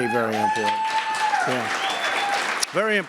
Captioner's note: applause